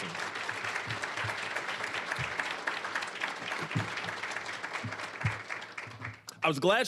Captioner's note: applause